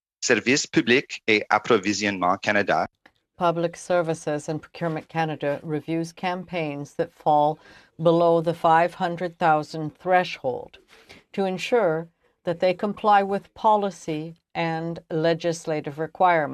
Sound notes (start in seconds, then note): 6.4 speaking french